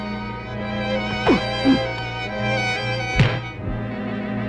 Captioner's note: man grunting